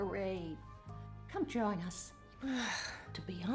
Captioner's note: sighs